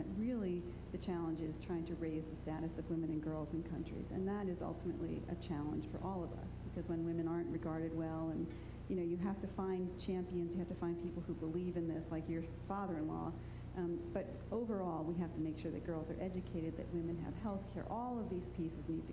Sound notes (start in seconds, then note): none